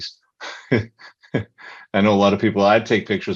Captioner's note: laughing